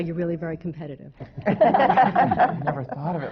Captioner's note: laughter